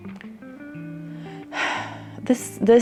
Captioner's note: sighs